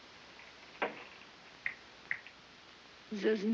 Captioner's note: snapping fingers